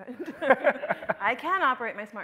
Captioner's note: both laughing